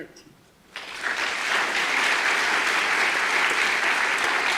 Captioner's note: audience applause